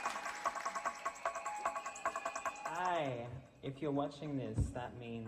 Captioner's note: applause